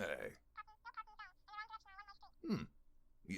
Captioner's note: weird sound coming from phone